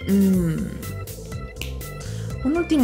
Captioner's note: snapping fingers